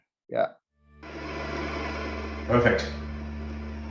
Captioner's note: machine revving